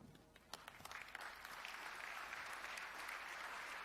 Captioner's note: applause